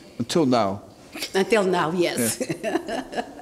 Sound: laughs

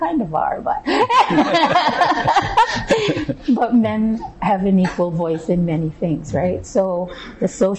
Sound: laughter

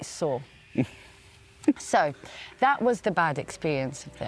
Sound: chuckles

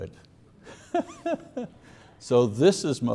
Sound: laughs softly

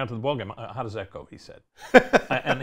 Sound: laughs

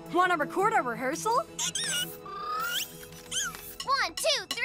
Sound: squeaking

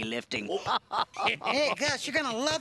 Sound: both laugh

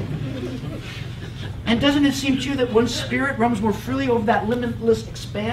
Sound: laugh

